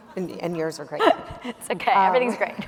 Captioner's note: laughing